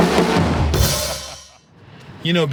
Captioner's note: drumming; laughing